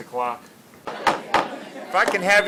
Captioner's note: pounding gavel